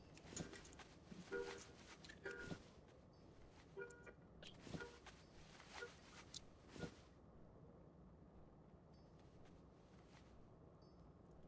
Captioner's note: footsteps